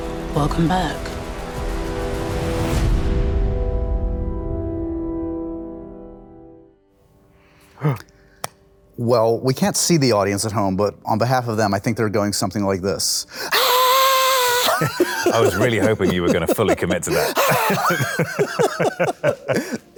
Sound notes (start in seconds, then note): 7.6 gasps; 17.5 Henry laughing